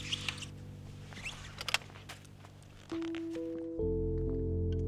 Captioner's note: kickstand clicks